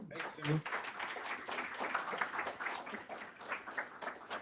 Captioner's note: applause